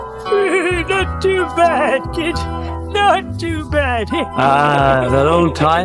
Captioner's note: cackles